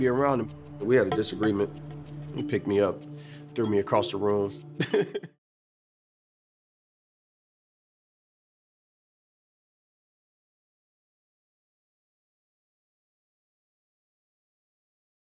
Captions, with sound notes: We had a disagreement, and he picked me up, threw me across the room. (laughing) Whew!